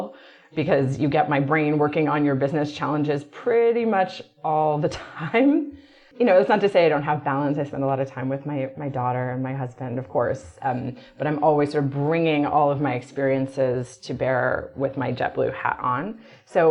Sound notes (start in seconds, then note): 5.5 laughs